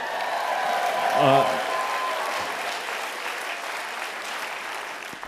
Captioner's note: applause